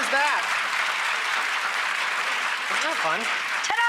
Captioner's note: clapping